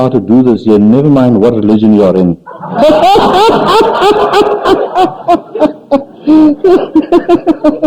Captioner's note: laughs